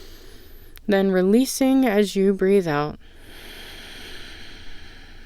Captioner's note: exhale